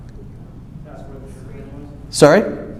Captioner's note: mutters